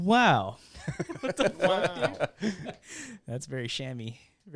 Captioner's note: laughing